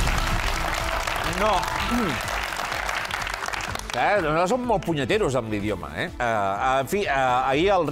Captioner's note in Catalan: aplaudiments